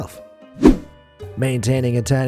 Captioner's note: air whooshing